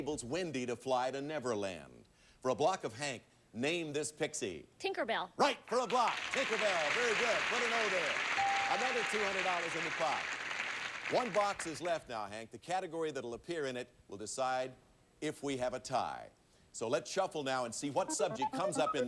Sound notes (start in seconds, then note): 8.1 audience applauding